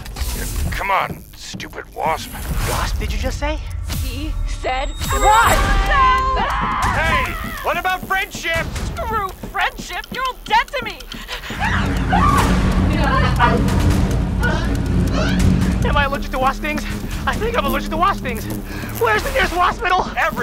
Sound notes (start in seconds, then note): 5.1 collective shouting; 11.0 wasp buzzing; 12.1 high pitched scream; 13.1 heart pounding music